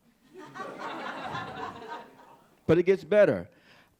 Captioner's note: audience laughing